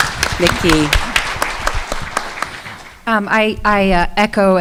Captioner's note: audience clapping